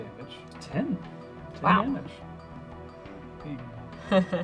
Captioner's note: laughs